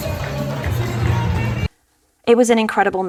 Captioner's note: applause